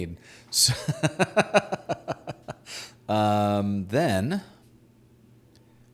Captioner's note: laughing